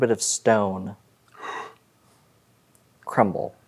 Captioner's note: gasps